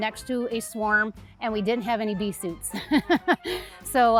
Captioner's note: laughs